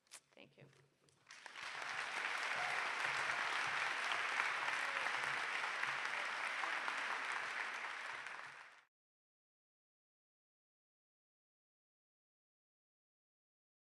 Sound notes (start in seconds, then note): 1.2 audience applauds